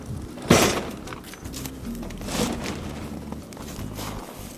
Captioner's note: metal rattling